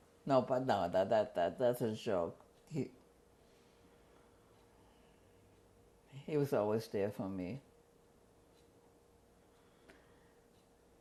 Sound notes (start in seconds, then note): 3.2 pauses for 3 seconds; 7.8 pauses for 7 seconds